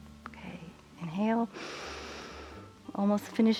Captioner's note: inhales